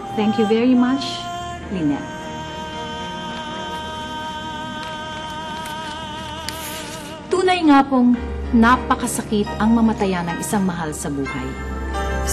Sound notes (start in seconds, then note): none